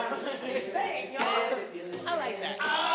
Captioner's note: laughs